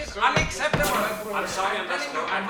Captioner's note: hiss